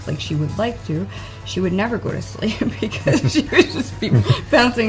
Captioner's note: laughing